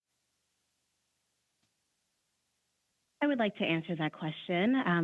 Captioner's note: speaking French